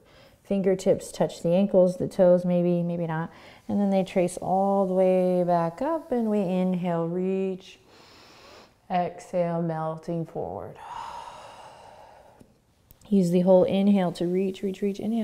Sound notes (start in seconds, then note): 7.9 inhaling; 10.8 exhaling